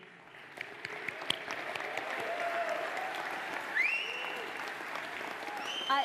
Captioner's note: audience applauds